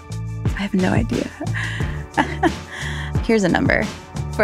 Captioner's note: laughs